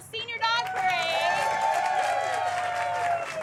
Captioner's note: cheering and applause